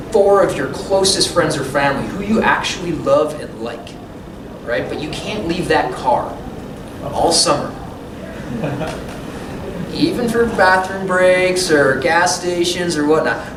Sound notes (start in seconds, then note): 8.2 laughter